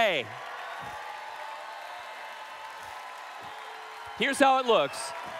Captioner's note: applause/Cheering